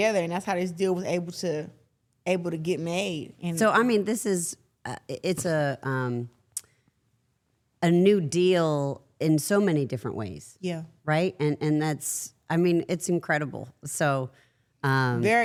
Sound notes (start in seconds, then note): none